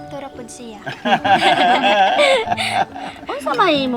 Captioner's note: everyone laughing